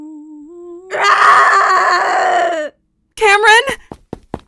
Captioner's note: screams